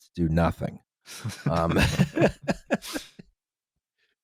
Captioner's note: light laughter